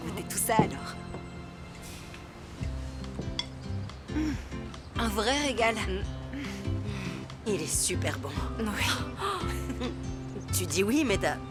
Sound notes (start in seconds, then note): 9.3 scoffs